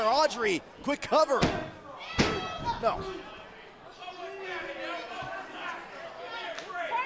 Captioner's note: crowd chatter